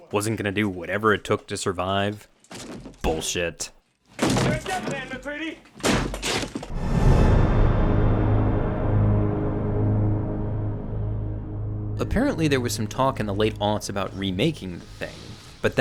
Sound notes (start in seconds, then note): 4.0 wall cracking; 6.7 dramatic music